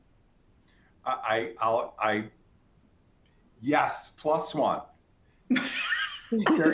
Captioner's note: chuckles